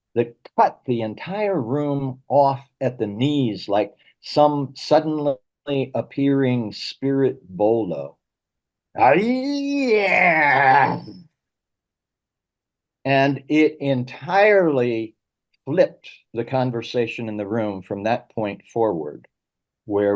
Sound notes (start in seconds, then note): 9.0 wails